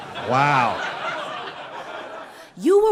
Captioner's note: people laughing